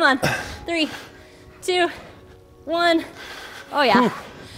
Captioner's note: panting